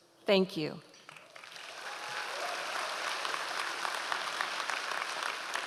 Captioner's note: audience applause